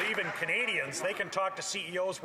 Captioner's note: some Applause